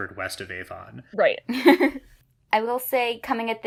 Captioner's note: laughs